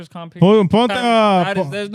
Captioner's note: speaking In Foreign Language